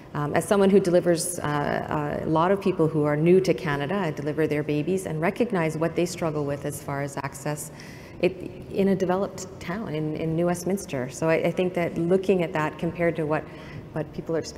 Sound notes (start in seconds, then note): none